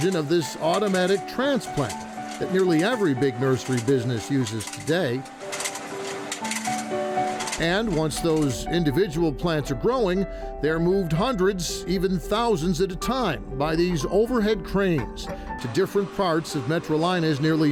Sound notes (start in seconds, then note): 5.3 machine whirring; 5.6 gentle music